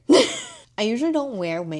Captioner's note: laughs